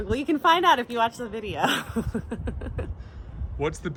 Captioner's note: laughing